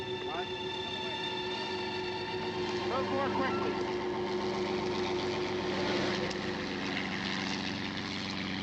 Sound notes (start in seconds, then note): 0.3 murmuring; 2.1 engine running